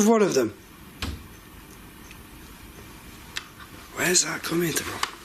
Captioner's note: dull thudding